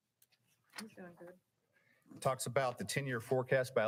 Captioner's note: woman speaking faintly